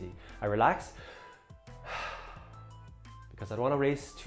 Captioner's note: breathes heavily